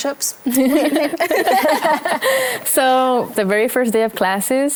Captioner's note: laghter